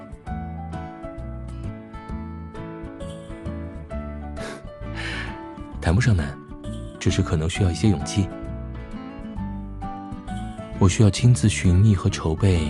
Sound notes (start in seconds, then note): 4.4 chuckles